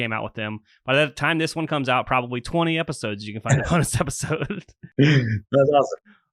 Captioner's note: laughs